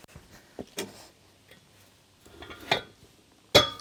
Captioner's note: none